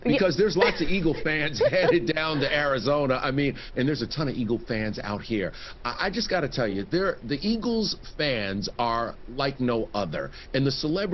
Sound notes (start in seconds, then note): 3.2 laughter